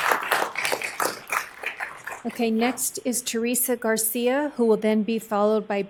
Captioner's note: applause